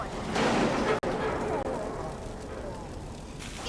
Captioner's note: pained groaning